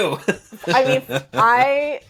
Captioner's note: laughing